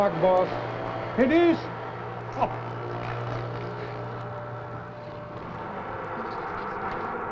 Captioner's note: chuckles